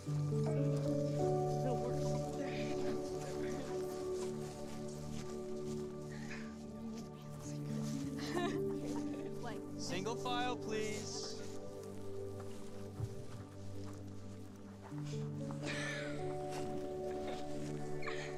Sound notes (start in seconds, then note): 5.9 girls chattering and giggling; 15.7 both giggling